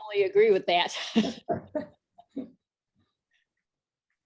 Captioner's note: laughs